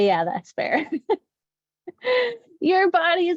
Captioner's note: laughs